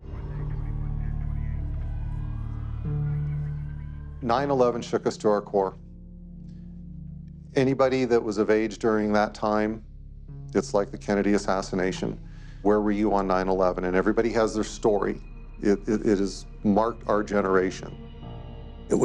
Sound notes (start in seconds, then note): 2.1 alarms wailing; 2.1 contemplative music